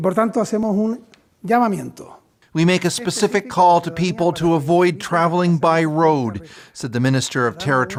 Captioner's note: speaking alternate language